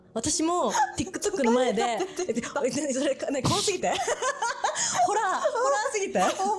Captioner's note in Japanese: 笑い